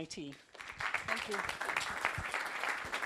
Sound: applause

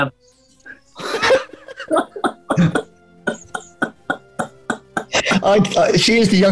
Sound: laughter

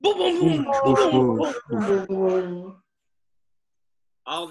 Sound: group makes thunder noises

